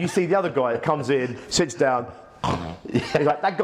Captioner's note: snores